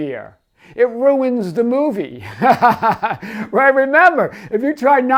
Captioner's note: laughs